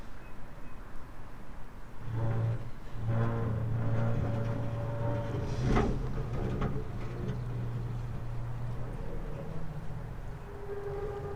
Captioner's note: sound of scraping metal